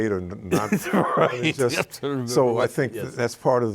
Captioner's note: laughs